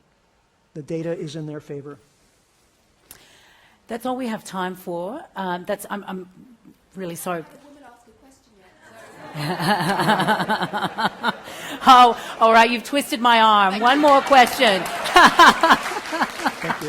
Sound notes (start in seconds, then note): 8.9 laughter; 13.5 applause